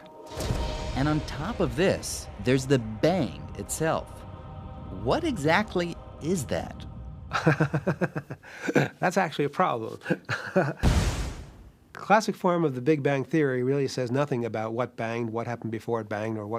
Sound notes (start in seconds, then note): 7.3 chuckling